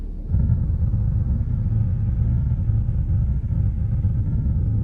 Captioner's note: spacecraft rumbling